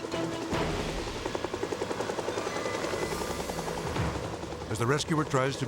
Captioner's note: helicopter whirring